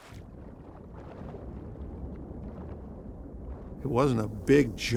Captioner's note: water bubbling